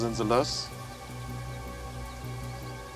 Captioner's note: birds chirping